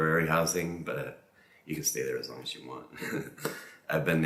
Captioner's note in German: lacht